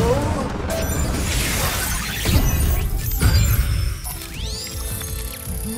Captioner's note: beeping, whirring